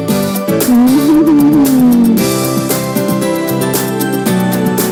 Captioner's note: chuckles